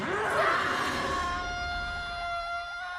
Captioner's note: screaming